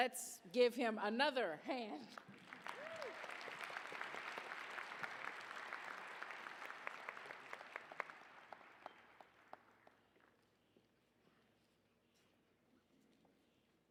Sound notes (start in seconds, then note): 2.0 applause